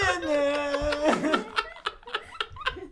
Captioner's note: laughing